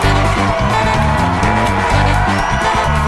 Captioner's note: men and women cheering